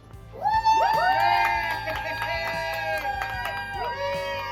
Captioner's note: families cheering